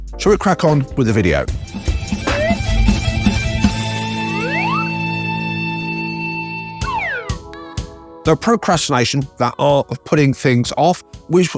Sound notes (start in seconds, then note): 1.3 rock music; 4.3 graphic whistling; 7.1 upbeat music